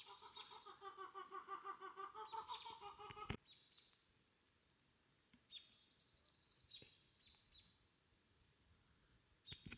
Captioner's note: birds chirping